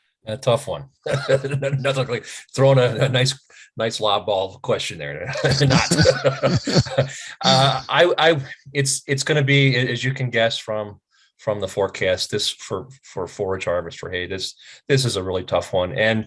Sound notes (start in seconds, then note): 5.2 laughs